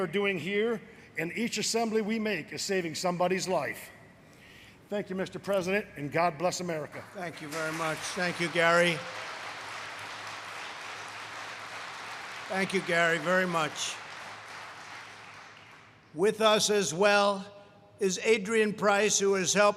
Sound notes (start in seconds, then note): 7.0 applause; 11.6 applause